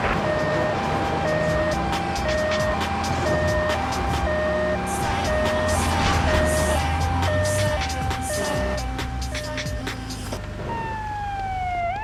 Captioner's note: siren wailing